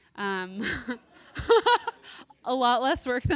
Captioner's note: laughs